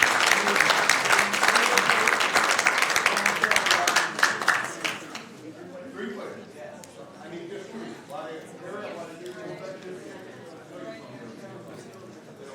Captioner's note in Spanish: aplausos